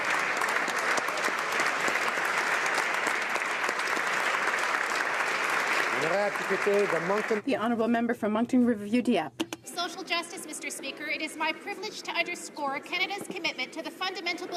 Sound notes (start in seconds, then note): 7.4 applause